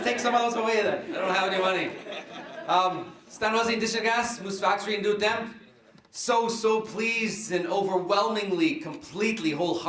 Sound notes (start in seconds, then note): 3.6 foreign words